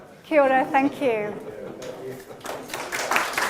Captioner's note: applause